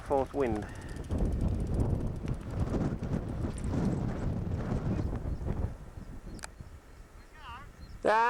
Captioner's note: wind